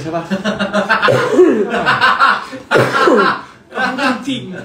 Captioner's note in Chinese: 波在沙發上大笑